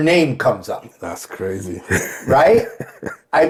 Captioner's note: laughing